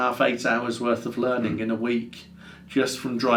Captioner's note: none